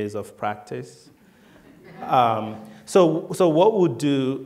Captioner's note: laughter